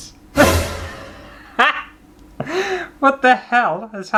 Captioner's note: laughter